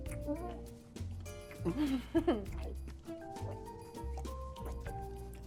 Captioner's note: laughing